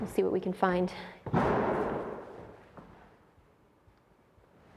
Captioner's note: door bangs